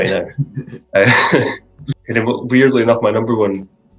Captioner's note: laughs